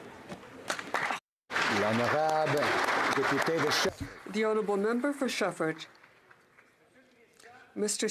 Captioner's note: speaking alternate language